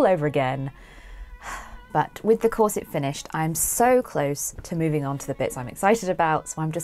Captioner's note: sighs